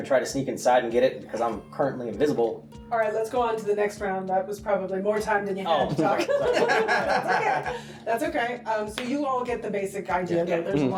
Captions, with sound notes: I mean I can try to sneak inside and get it because I'm currently invisible. Alright, let's go on to the next round. That was probably more time than you had to talk. Oh, sorry! (laughing) That's ok! So you all get the basic idea though.